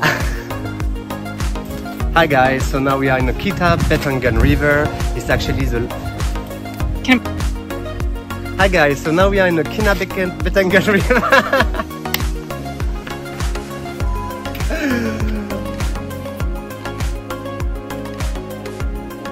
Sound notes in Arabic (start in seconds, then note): 10.7 يضحك; 14.3 موسيقى مبهجة